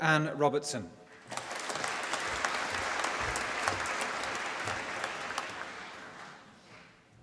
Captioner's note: applause